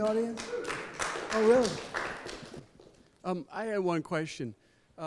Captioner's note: sporadic clapping